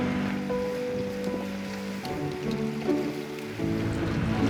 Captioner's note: water trickling